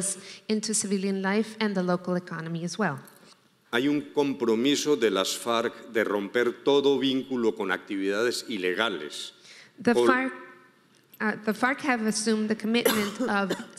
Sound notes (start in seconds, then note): 3.8 speaking in foreign language